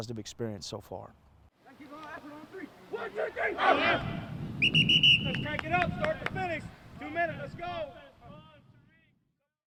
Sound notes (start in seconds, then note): 3.2 team cheer; 4.5 whistle